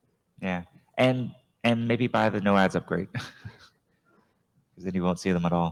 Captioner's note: chuckles